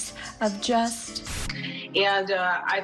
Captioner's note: static